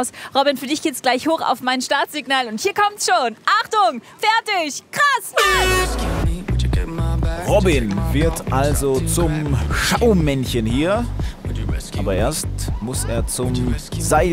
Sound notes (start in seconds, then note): 5.5 Startsignal; 6.0 Heitere Popmusik